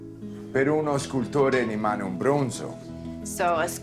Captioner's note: Dario speaking Italian